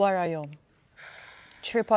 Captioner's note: gasps